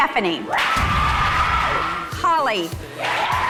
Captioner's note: ladies cheering